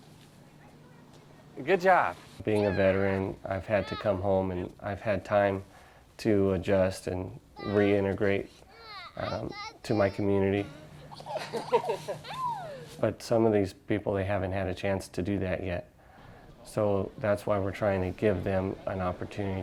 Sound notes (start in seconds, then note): 11.0 laughter